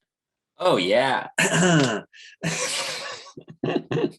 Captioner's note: clears throat